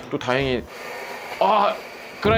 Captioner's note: whirr